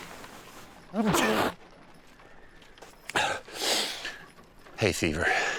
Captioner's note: sneeze